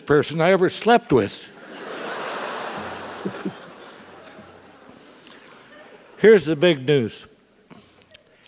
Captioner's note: laugh